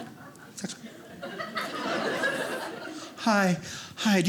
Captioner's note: audience laughing